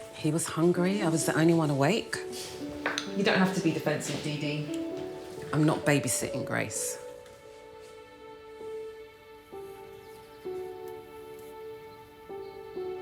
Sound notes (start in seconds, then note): 7.1 birds chirping; 7.1 sentimental music